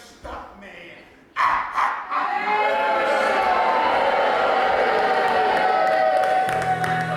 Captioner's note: maniacal laughter, audience boos